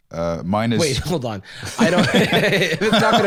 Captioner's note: laughs